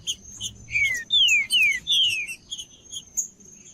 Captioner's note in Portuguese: trinca ferro cantando